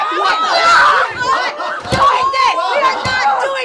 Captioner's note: even more crying